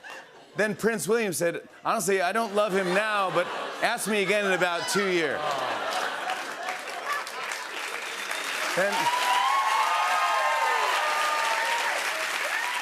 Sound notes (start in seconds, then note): 7.0 applause; 9.8 cheers and applause